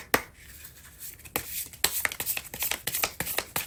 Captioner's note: drawing cards